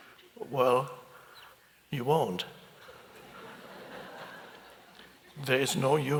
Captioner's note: audience chuckles